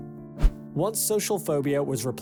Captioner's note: screen swishes